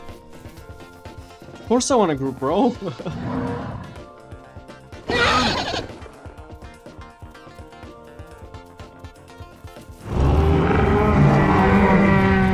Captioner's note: laugh